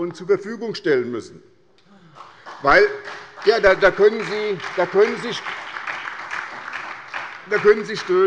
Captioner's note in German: Beifall bei der SPD - Zuruf von der CDU